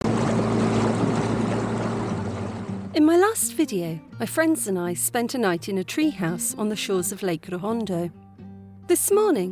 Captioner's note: boat motor